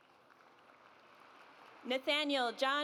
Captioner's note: audience applauds